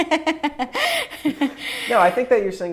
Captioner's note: laughs